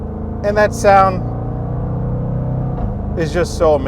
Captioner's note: engine revving